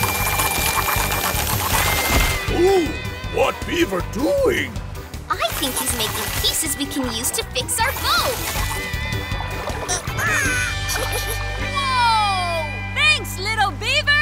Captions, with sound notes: Ooh, what beaver doing? I think he's making pieces we can use to fix our boat. [squeaking, chuckles] - Whoa! - Thanks, little beaver!